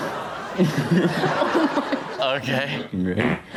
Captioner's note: all laugh; friend passes gas